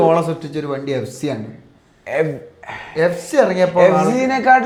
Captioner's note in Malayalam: തൊണ്ട ശരിയാക്കുന്നു